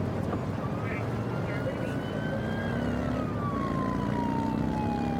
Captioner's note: siren blaring